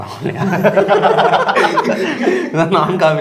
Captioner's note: laughter